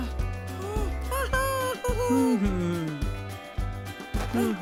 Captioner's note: animal cheering